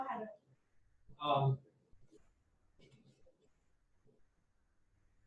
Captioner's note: woman speaking faintly